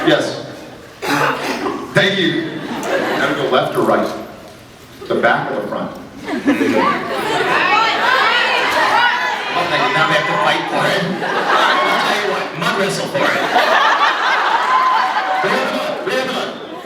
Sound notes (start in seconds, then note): 6.2 scattered laughs; 8.0 riot resumes; 11.1 scattered laughs; 13.1 laughs